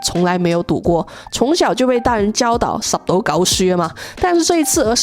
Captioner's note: Cantonese